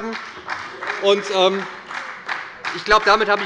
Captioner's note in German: Beifall bei der SPD, dem BÜNDNIS 90/DIE GRÜNEN und der FDP